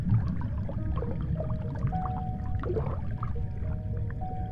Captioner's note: water sloshes